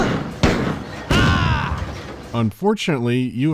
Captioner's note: pow-pow; boom